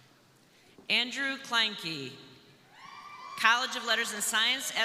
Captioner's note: crowd cheering